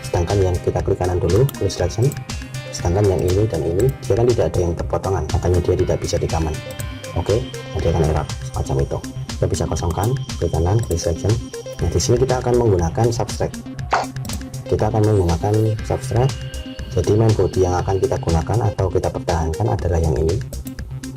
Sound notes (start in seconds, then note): 14.2 click; 20.4 click